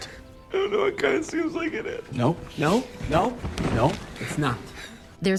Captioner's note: sobbing